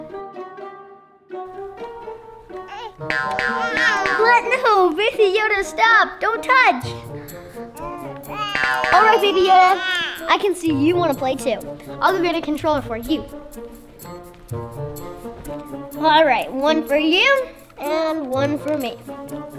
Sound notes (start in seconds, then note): 0.2 light hearted music; 7.7 baby babbles; 13.7 light hearted music; 19.3 light hearted music